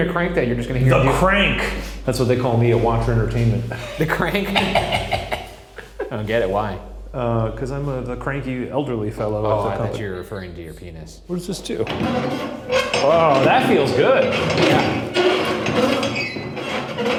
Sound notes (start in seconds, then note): 3.7 chuckles; 3.7 laughing; 11.6 handle clanging and squeaking